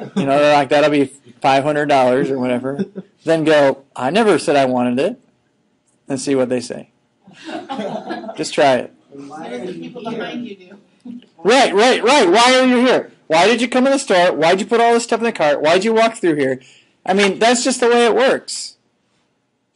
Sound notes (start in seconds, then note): 7.3 students laughing